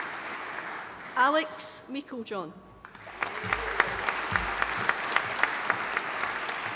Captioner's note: audience applauding